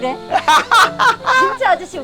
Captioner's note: both laughing